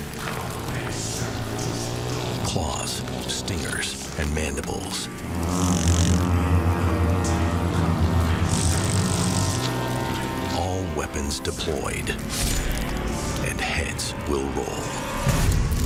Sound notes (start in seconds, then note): 1.1 hornets buzzing; 5.6 hornets buzzing; 15.6 dramatic music; 15.6 hornets buzzing